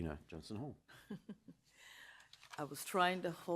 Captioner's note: chuckling